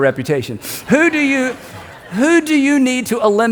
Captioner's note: congregation laughs